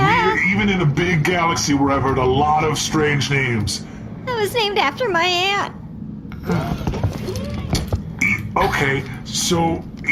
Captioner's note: nervous